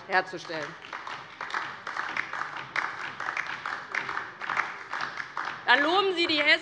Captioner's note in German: Beifall DIE LINKE